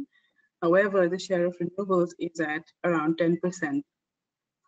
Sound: audio static

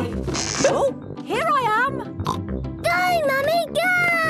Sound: pops

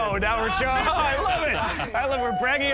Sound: laughs

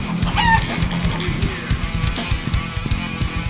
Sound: chicken clucking; upbeat metal music

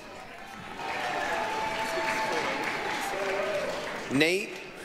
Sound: applause, cheering

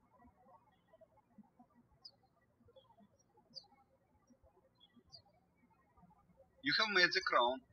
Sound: birds chirping

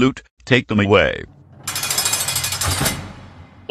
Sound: prison cell door closes

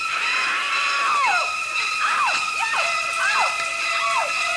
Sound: screaming; violins screeching

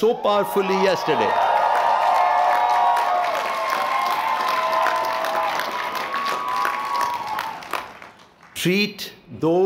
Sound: cheering

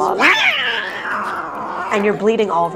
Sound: loud meow

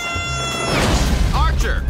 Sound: explosion

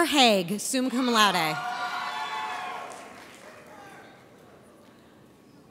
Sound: audience cheers

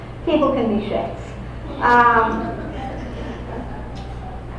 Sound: audience laughter

